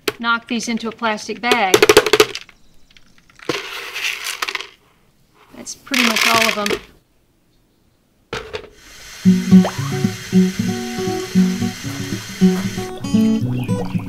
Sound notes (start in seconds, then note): 1.4 bang, bang, bang